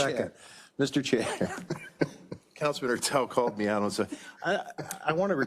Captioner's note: laugh